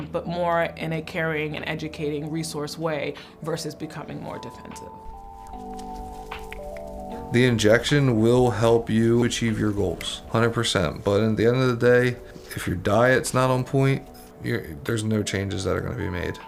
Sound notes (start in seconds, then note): 5.1 gentle music; 5.4 snapping